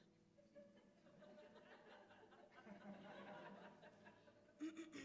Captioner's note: laughter